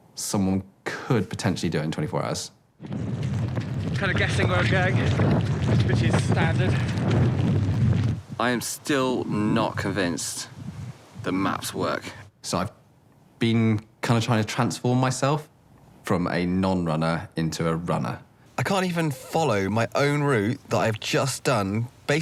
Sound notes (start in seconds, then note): 3.4 wind blowing